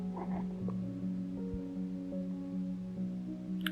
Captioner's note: cat chirping